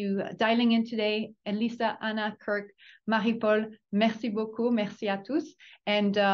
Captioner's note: speaks in French